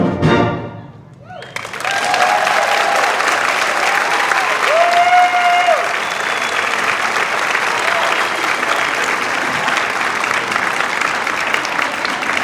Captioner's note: applause